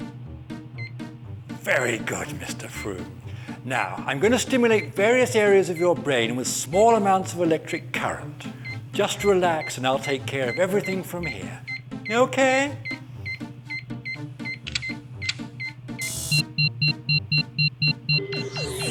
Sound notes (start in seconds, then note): 15.9 dramatic music; 15.9 laboratory machinery beeps